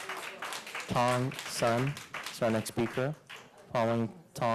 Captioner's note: applause